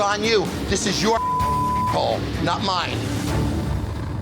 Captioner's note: beep